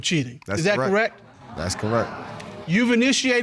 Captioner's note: audience gasping